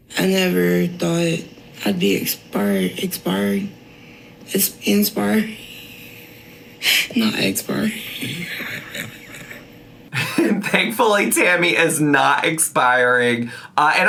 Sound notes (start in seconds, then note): 8.0 chuckling